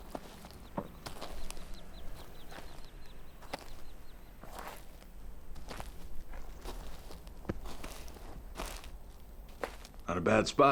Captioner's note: birds chirping